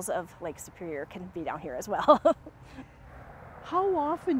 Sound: chuckles

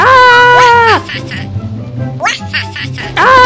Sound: Minions laugh

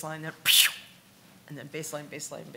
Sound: increase wheeze

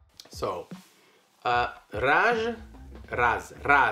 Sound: speaks Polish

